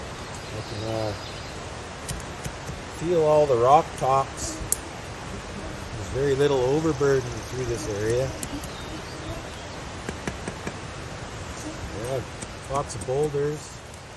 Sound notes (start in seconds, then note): 10.0 tap tap